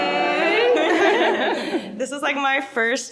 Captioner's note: laughing